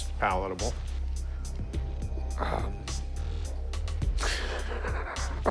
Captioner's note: laughs